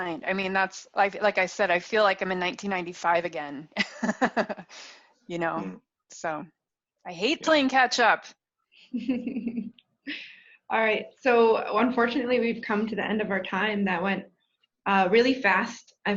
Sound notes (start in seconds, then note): 3.8 laughs; 8.9 chuckles